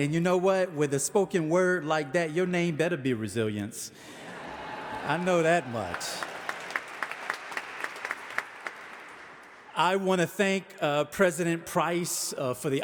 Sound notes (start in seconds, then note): 4.1 audience laughing; 6.7 audience applauding